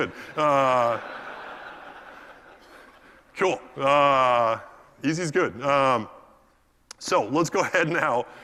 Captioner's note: laugh